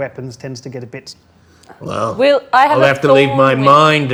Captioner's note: overlapping chattering